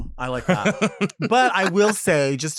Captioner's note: laughs